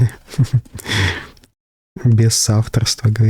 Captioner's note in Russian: смех